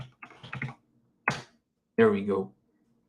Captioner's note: keyboard clicks